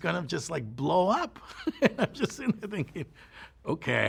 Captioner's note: laughs